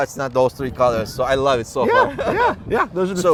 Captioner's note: güler